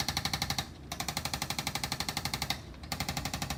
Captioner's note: tool vibrates noisily